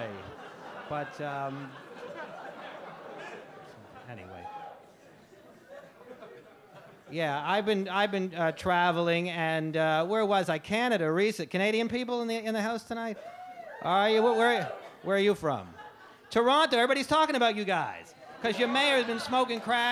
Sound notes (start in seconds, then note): 0.0 audience chuckle; 13.2 audience whoop